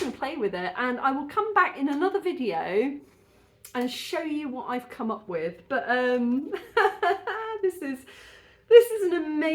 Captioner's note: laughing